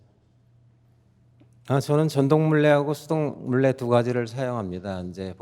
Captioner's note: speaking in Korean